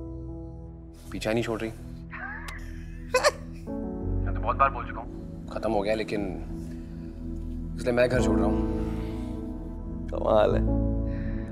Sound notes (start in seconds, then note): 2.2 sniggering